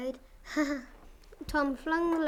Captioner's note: chuckles